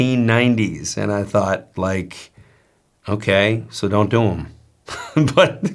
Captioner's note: laughs